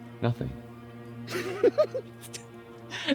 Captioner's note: maniacal laugh